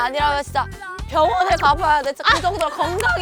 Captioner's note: voice shot from cheering